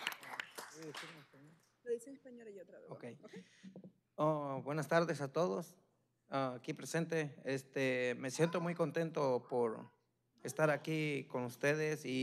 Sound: applause

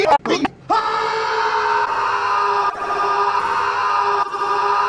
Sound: screams

